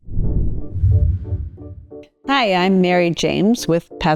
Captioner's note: logo swooshing; soft music